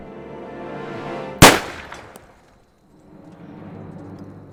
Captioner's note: gunshot bangs